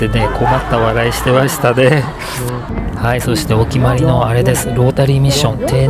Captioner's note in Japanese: 笑い